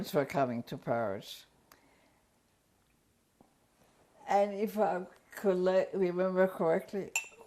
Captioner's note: pauses for 3 seconds